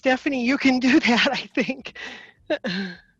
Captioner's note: chuckling